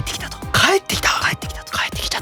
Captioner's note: whispering